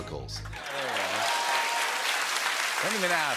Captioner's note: cheers and applause